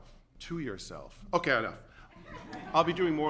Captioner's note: laughter